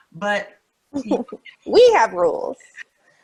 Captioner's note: laughs